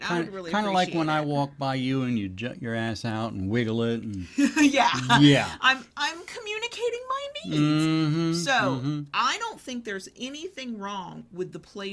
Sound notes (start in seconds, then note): 4.1 laughing